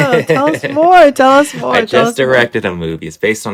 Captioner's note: laughter